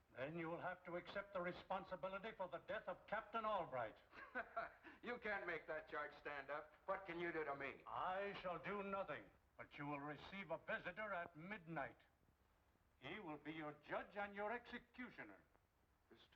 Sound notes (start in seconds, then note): 4.1 Kraus laughs